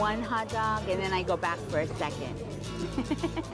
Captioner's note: laughing